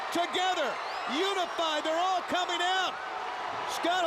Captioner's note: crowd cheering